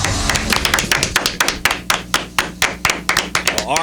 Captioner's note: applause